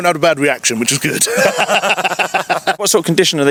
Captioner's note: both laughing